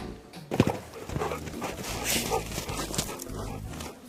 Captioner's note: dog panting